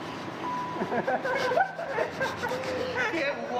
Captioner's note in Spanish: Risas